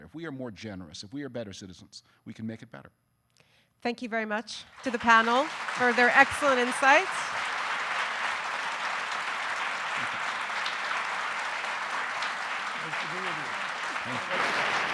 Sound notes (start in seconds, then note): 7.8 audience applauding